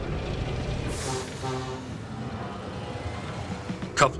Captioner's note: engine revving up; engine revving with piston hiss; honk-honk